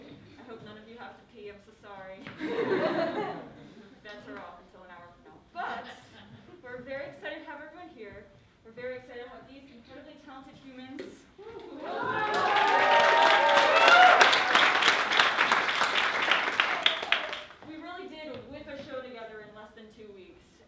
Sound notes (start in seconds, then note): 2.2 laughter; 11.8 applause